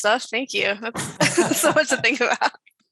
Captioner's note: chuckles